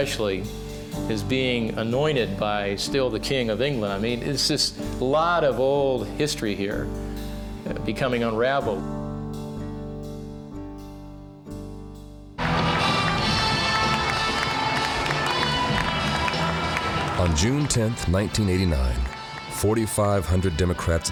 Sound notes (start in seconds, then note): 12.4 audience applauding; 12.4 upbeat music